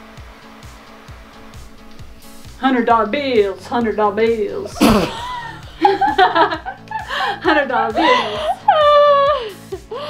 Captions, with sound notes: - Hundred dollar bills, hundred dollar bills. (laughs) Hundred dollar bills.